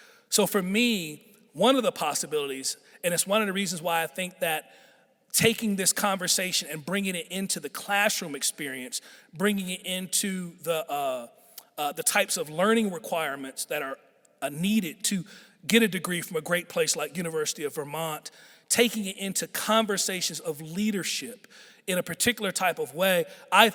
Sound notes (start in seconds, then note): none